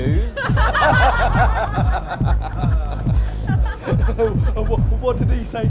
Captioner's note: laughter